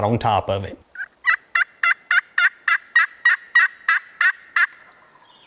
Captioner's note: turkey calling